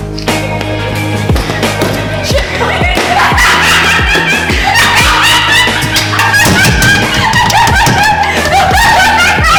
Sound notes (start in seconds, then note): 2.0 Mooshie laughing hysterically